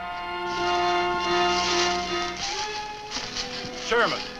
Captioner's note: leaves rustle